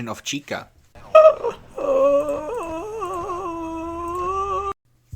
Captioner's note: moaning intensifies